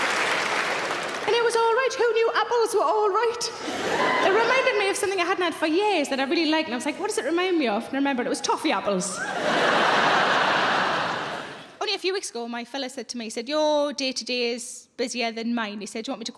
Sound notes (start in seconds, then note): 9.1 audience laughs